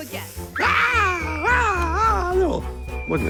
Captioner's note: screaming